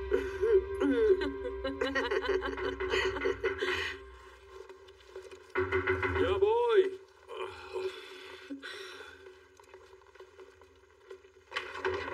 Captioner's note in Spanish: Llaman a la puerta